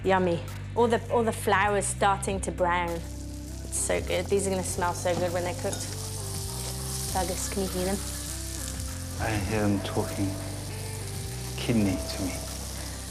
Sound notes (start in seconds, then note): 6.1 loud sizzling